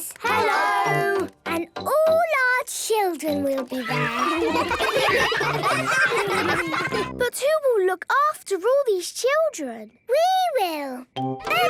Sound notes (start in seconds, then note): 3.7 ruckus; 11.4 children playing